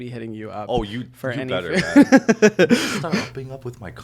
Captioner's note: Hyram giggling